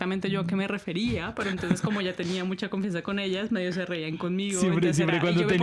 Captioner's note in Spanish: risas